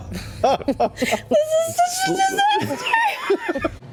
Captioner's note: crying laughing